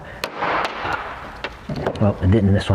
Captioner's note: panel banging